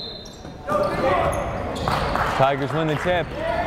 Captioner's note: whistle blowing